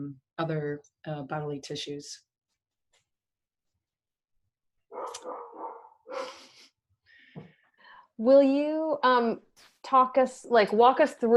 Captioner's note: dog barking